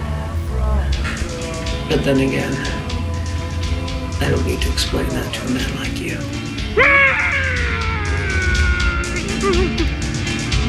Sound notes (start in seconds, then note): 6.0 muffled screaming